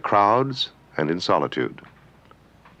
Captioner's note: speaking french